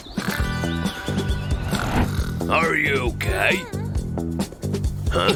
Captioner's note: snoring